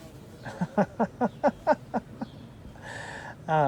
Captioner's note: laughs